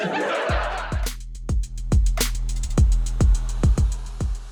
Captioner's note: audience laughs